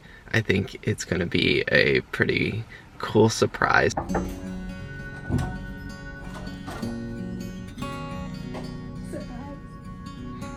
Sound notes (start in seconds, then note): 3.8 door opening; 4.0 knocking on door